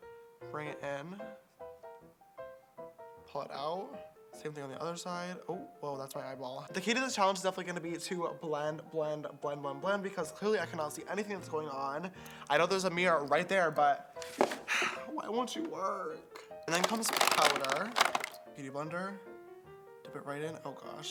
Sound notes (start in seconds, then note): 14.6 sigh